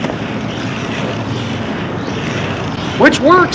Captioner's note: wheels creaking